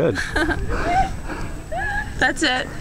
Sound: laughing

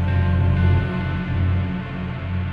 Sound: deep rumble

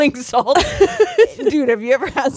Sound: both laughing

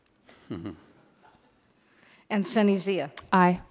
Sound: board member chuckles

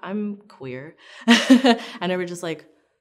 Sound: laughs

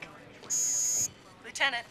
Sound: phone buzzing

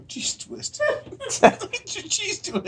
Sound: laughter

